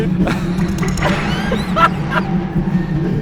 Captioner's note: laughs